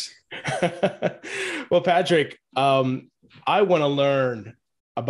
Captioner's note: chuckles